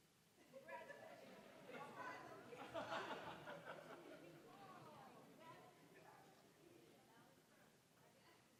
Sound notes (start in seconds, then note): 0.6 general chatter; 0.9 scattered laughing